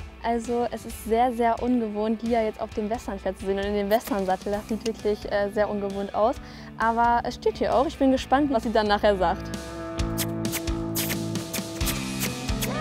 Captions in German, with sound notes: Es ist sehr ungewohnt, Lia auf dem Westernpferd zu sehen. Und im Westernsattel. Das sieht sehr ungewohnt aus. Aber ich bin gespannt, was sie nachher sagt. (Kussgeräusche)